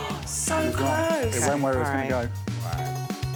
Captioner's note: upbeat music; Alex blows whistle; gasps